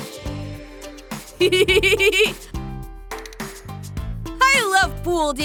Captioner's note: chuckling